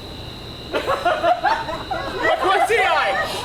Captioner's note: audience laughs